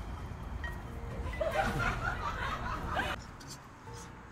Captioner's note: laughing